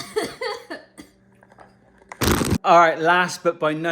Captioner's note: coughing